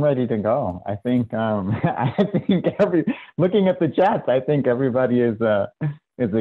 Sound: laughs

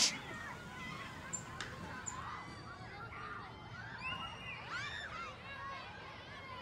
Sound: kids shouting in background

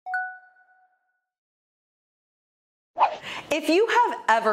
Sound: bell chimes

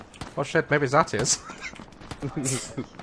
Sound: laughs

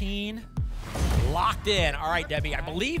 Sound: thump; whoosh

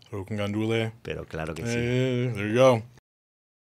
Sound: Pedro speaking Spanish

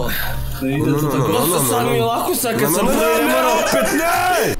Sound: bigger male orgasam

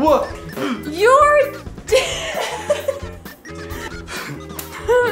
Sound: laughing

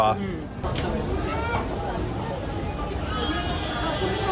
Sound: baby crying

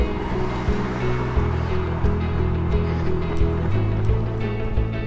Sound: engine roars; footsteps pounding

